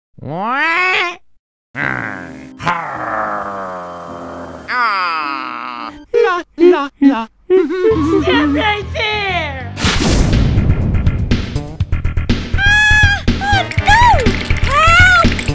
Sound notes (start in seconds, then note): 6.1 Tari & Mario humming Mario's theme; 12.6 shivering